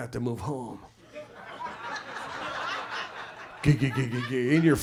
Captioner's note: audience laughs